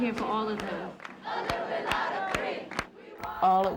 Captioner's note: protesters chant